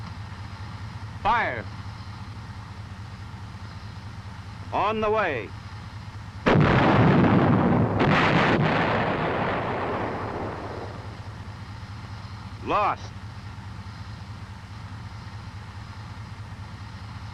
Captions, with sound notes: - Fire! - On the way! (gun booming) (shell exploding) Lost.